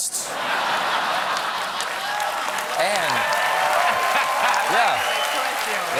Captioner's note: laughter; applause